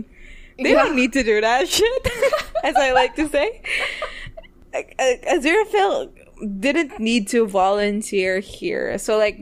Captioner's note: laughs